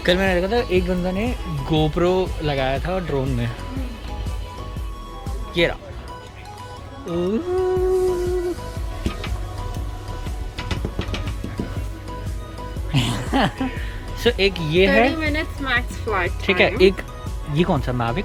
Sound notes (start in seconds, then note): 7.0 weird excitement noise